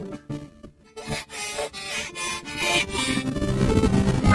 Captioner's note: panting